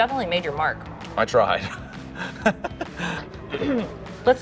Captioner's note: laughing